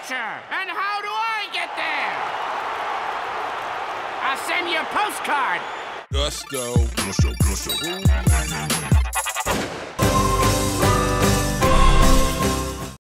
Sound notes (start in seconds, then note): 2.4 cheering; 6.1 club music